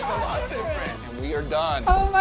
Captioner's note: children exclaiming